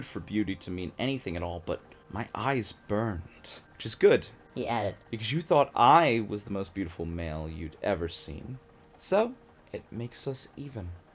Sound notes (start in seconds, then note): 4.5 high-pitched voice effect